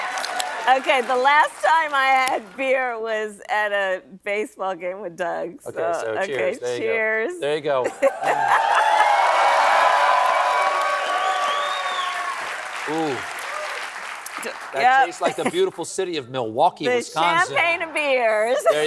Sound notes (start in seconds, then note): 12.0 cheering